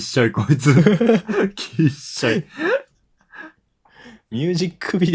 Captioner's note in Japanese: 笑い; 息をのむ音